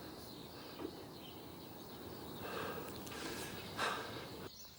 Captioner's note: birds chirping